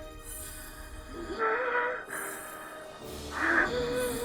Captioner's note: gasping